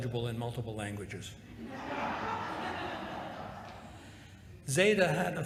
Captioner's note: laughter